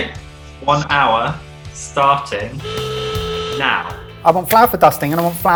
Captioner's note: horn honking